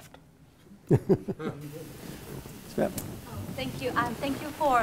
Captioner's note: laugh